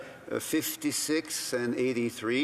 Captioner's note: speaking in French